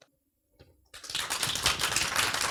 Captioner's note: applause